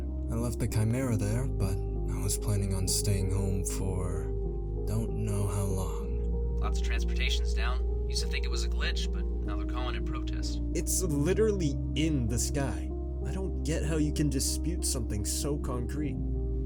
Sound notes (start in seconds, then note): none